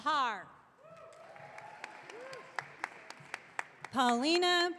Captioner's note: audience cheering